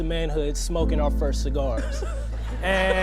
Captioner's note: audience laughing